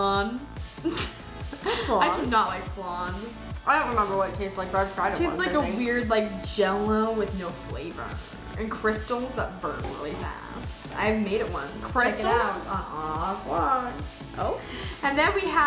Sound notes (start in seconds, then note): 1.5 laughs